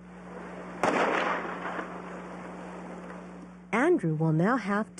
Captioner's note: gunshot